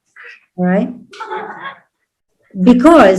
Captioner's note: indistinct laughter